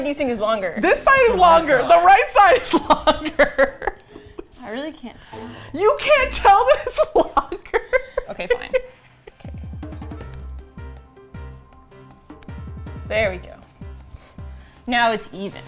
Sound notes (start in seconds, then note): 3.6 laughs; 5.2 with exasperation; 5.3 laughs; 9.2 suspenseful music; 9.5 snips